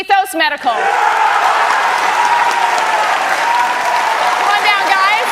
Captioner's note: cheers and applause